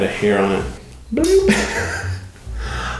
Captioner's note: giggles